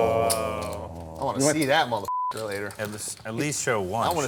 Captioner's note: all players groaning; beep